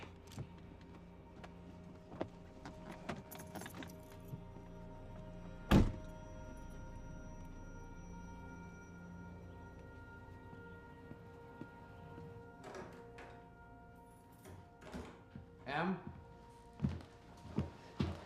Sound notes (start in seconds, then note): 11.5 door opens, keys jingle, door closes